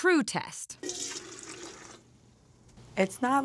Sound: pouring

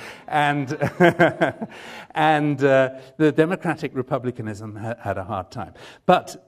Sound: laughter

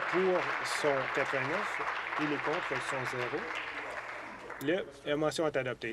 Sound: applause

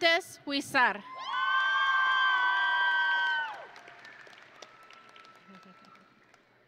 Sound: audience and graduates cheering

